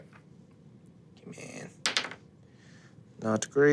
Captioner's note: dice rolling